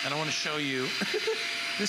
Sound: laughter

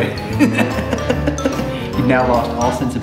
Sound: laughs

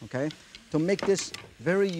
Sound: glass thuds softly

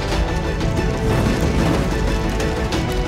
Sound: fire crackling

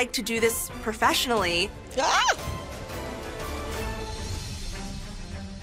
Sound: shrieks

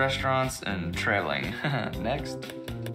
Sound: laughs

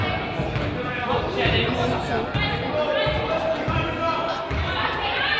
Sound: crowd chatters

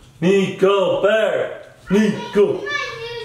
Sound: chants

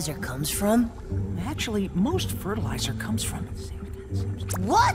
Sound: whispering

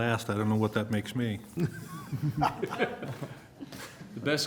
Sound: laughter

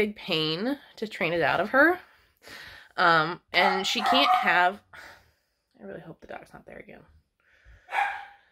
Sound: Pepper keeps barking & howling

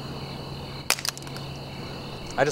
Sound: saber clatters

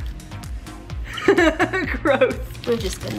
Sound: laughs

